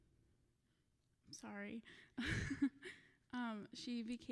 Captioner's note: laughing